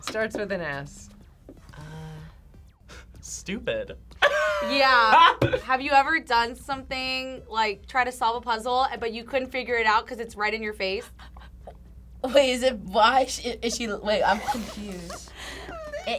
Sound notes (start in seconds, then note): 4.2 laughs; 11.0 laughs